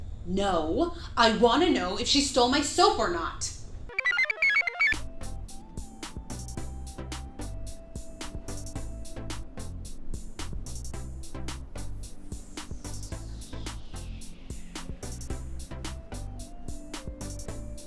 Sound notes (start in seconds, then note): 3.9 computer chirps; 4.0 blissful music